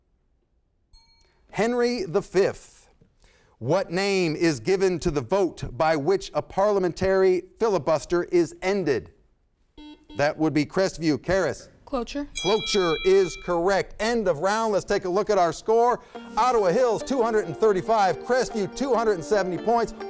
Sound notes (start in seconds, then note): 0.9 bell sounds; 9.7 buzzer sounds; 12.3 bell rings